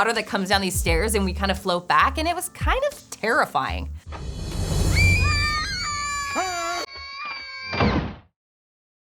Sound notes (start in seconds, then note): 4.8 kids screaming; 6.4 Alan screams